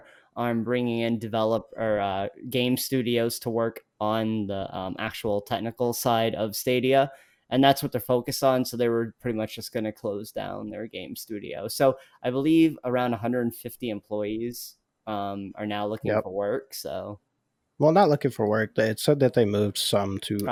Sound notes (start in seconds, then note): none